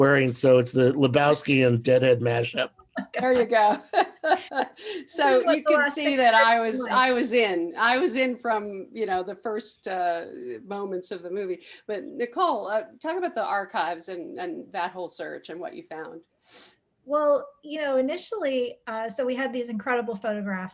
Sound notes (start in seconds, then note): 2.9 laughs